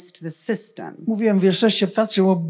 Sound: foreign language

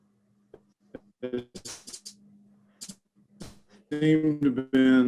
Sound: audio warbles

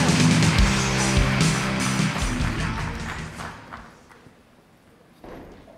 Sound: attendees applauding

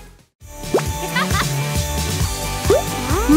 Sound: giggling

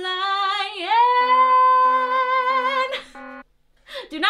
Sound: alarm

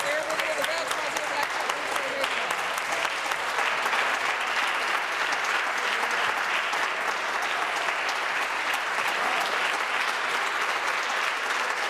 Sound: applause

